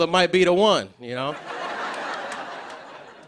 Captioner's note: laughter